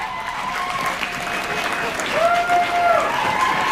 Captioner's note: shouts and whoops